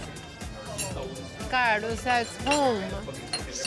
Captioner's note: speaking Spanish